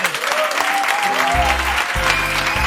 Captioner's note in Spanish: Aplausos